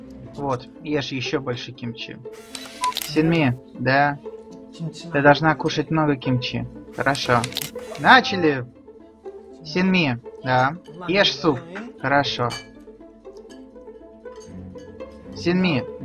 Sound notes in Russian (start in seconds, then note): 7.6 Голос за кадром